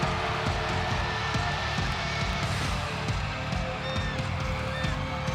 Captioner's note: audience cheering